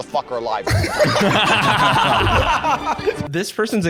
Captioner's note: all laughing